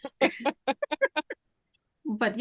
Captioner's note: laughs